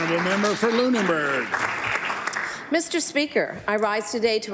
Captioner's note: applause